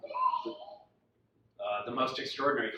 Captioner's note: child shrieking